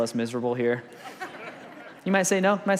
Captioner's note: congregation laughs